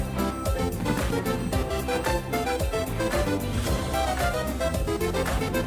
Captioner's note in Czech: veselá hudba; bouřání ohňostrojů; veselá hudba pokračuje